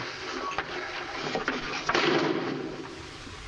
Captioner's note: thud